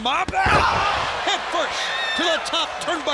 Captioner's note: crowd cheering